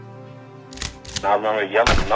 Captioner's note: gun clicks; gun shot